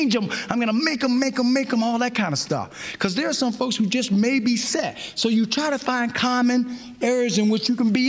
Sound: none

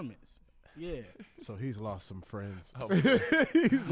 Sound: laughs

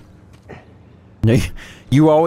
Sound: laughs

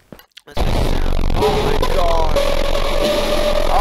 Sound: loud among us bass boosted sound effect

